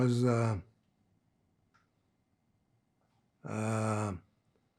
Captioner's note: pauses 6 seconds